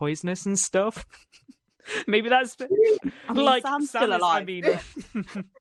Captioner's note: laughter